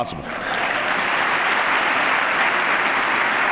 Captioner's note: applause